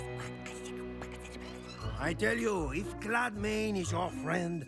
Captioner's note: whispering